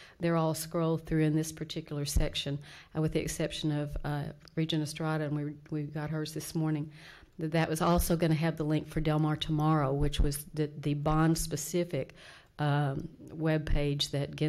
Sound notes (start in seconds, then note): none